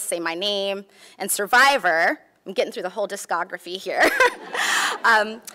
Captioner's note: laughs